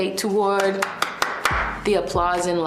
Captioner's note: clapping